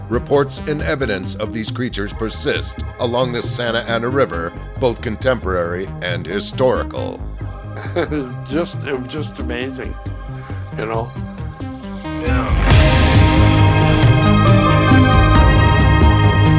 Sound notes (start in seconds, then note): 7.5 laughs; 11.7 upbeat music